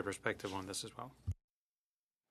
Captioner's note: speaking French